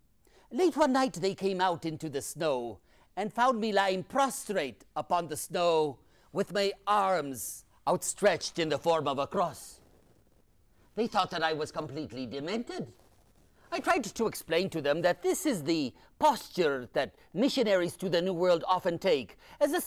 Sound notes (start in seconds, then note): none